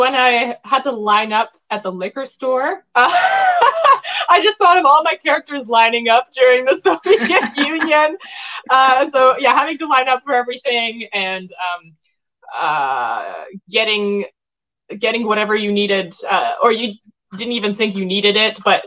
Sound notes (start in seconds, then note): 3.1 laughing; 7.0 all laugh